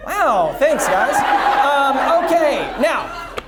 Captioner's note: audience laughs